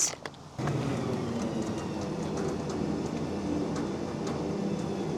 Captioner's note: machinery humming